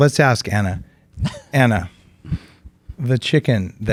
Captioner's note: chuckles